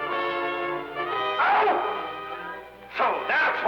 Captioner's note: foreboding music; Commandante yelling